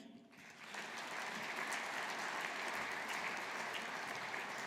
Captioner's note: audience applauding